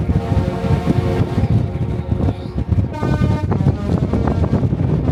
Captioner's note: ship horn honks melodically